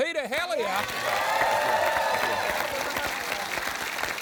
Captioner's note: cheering, applause